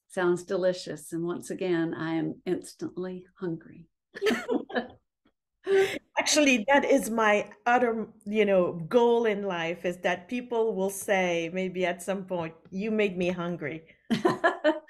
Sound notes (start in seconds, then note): 4.2 both laughing; 14.7 laughing